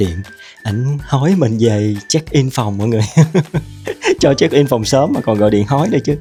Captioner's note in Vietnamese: tiếng cười